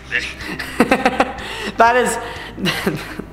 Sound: laughing

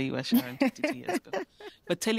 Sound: laughter

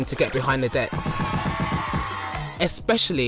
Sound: crowd cheering

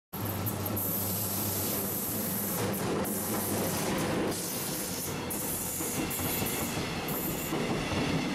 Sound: train noises

